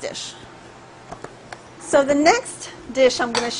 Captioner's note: sizzling